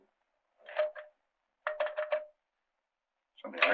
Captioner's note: phone rattling